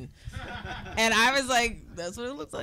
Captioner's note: laughing